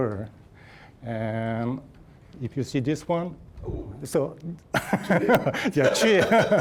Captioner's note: laughing